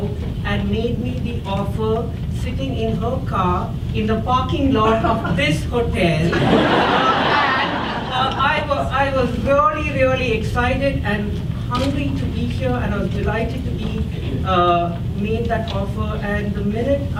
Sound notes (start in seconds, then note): 6.2 audience laughs